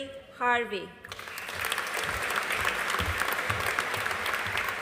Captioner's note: audience applauding